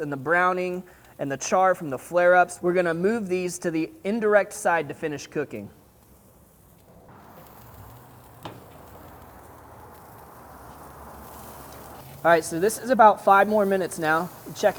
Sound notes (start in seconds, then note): 7.2 steaks sizzling